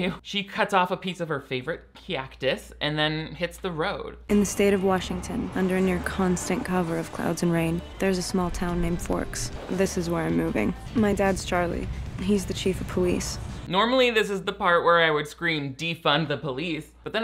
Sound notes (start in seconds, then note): 0.0 chuckling; 5.2 traffic whoosing